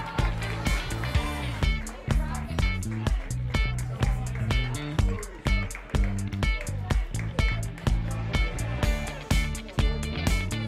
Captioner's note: applause